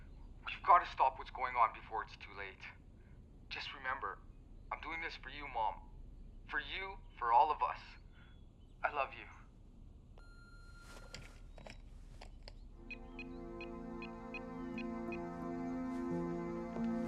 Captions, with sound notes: you've gotta stop what's going on before it's too late. Just remember, I'm doing this for you mom, for you, for all of us. I love you. (phone beeping) (phone keypad beeping)